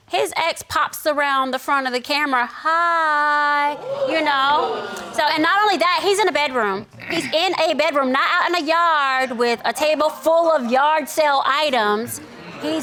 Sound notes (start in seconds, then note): 3.8 audience gasping